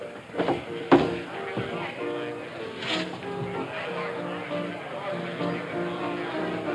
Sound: hooves pattering; people chattering; upbeat music

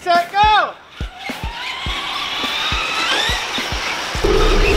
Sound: cars whirring

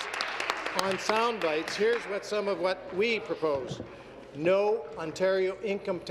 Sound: applause

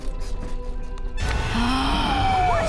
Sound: gasping

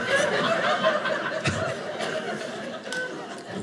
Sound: audience laughing

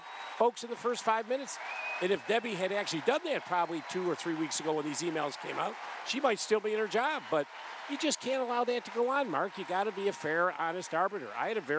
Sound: cheers & applause

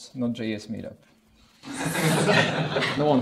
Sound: laughter

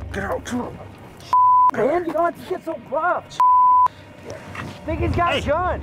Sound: beep

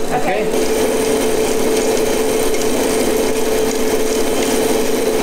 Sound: melanger whirring

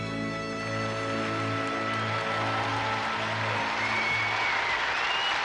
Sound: audience cheering

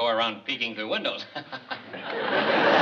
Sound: chuckles

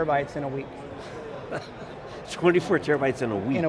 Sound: laughing

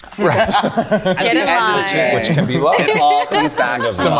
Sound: group laughing

